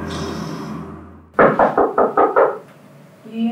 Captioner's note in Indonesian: ketukan pintu